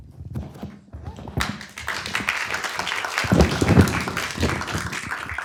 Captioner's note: applause